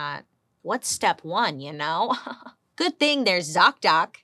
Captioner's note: chuckles